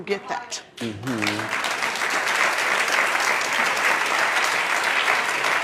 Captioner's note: audience clapping